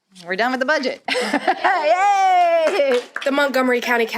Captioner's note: laughter and applause